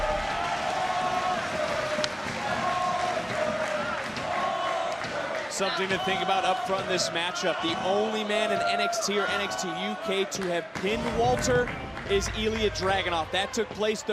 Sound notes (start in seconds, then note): 0.9 crowd chants "walter"